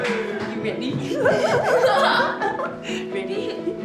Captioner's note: both giggle